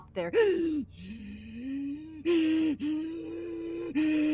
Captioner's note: rasping for breath